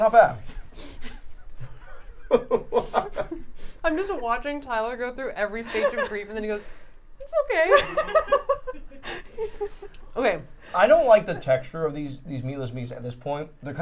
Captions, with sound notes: - Not bad. (laughs) - I'm just watching Tyler go through every stage of grief and then he goes, "It's okay." (all laughing) - I don't like the texture of these meatless meats at this point.